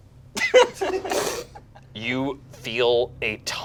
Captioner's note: group laughs